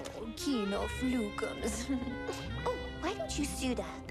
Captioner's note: chuckles